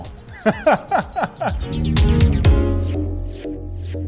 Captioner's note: laughing